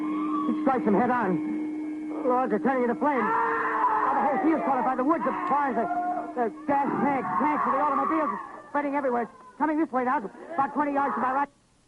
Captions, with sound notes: It strikes them head on! Good Lord, they're turning into flame! (screaming) Now the whole field's caught up, the woods, the barns, the gas tanks of automobiles, it's spreading everywhere. It's coming this way. About 20 yards to my right--